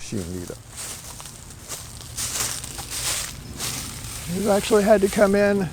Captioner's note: leaves rustling underfoot